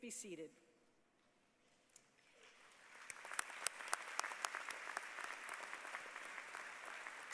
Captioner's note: applause